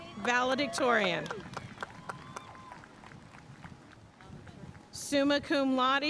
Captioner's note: audience cheering and applauding